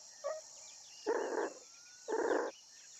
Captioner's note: grunting